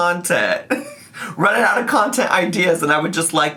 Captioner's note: laughs